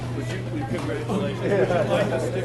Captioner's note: people chattering; emcee laughs